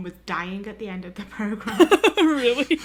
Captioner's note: laughter